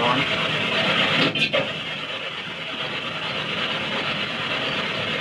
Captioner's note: device bangs